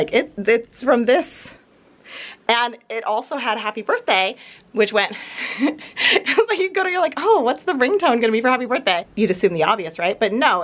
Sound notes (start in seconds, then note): 5.3 chuckles